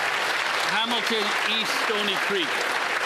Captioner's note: applause